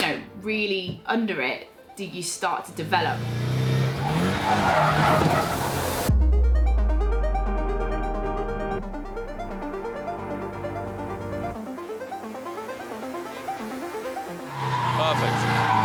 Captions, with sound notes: really under it do you start to develop. [TIRES SCREECHING] [LIGHT MUSIC PLAYING] Perfect.